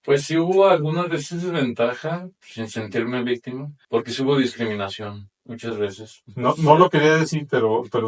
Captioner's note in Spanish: carraspeo